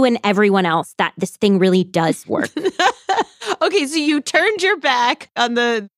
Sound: laughs

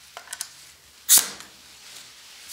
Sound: hissing

